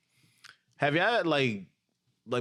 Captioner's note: speaking In Foreign Language